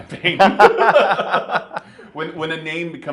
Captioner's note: laughing